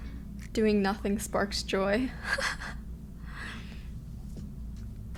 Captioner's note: she laughs